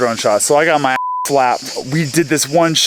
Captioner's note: beep